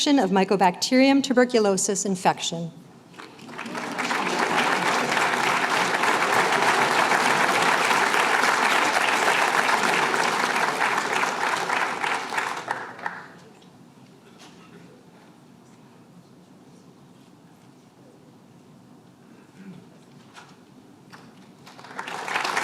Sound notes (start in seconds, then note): 3.4 applause